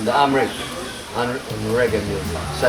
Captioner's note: ethiopian Language